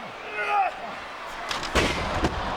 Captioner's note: Punk grunts; ladder clatters